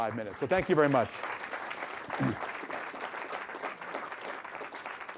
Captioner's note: applause